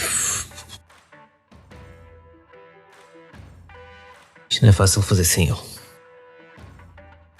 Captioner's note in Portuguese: riso contido